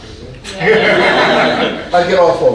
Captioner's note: audience laughing